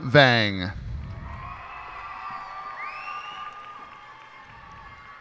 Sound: cheers and applause

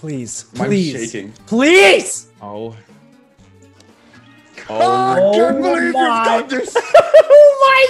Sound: laugh

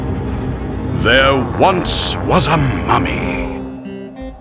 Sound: narrator, spooky voice

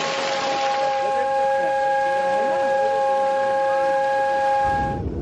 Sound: horn

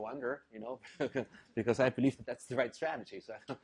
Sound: laugh

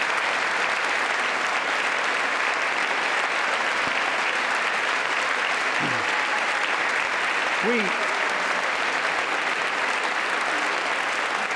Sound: applause

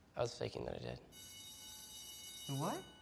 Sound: school bell ringing

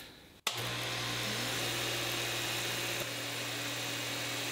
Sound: pantograph whirring

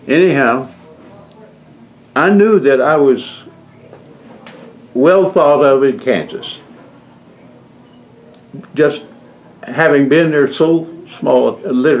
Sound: laughs

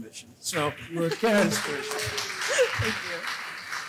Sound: applause

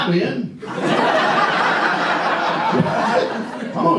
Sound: audience laughs

